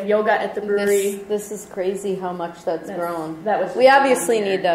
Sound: voiceover

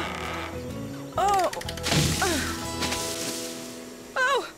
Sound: crash!

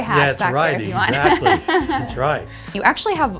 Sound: laughs

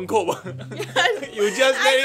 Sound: laughs

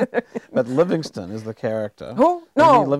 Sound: chuckling

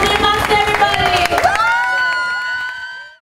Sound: cheering

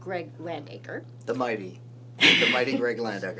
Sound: laughs

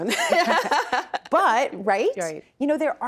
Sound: both laughing

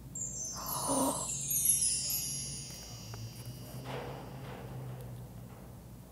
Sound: magical twinkling; gasping

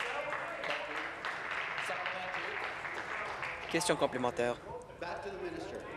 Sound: voice trailing

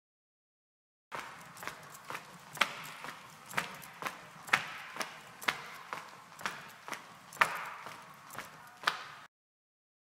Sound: sound of footsteps

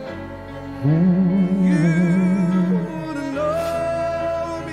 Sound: hums along

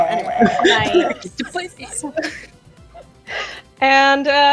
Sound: overlapping chatter

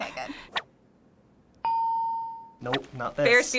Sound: ding

